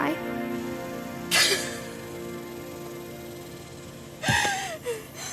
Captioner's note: Maddie sobbing